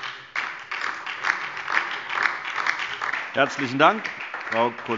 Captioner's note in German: Beifall DIE LINKE und SPD